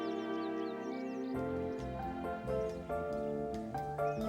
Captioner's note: horn honks